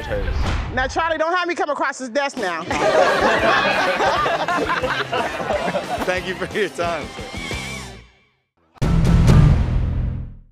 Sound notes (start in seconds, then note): 2.6 laughter